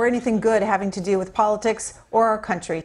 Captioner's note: none